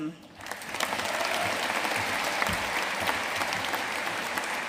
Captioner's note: audience applauding